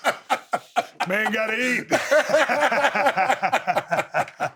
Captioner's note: laughs